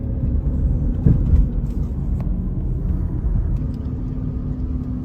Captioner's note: car softly driving